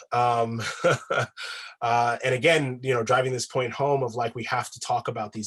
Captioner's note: laughs